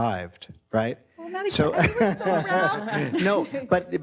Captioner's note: everyone laughs